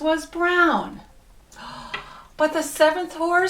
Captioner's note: gasps